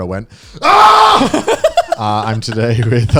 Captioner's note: screaming